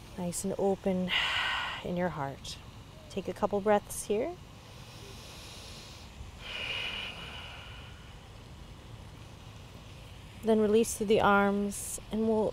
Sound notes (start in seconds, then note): 6.3 inhales and exhales deeply